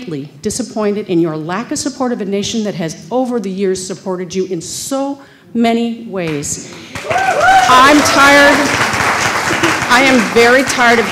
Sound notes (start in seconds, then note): 6.7 applause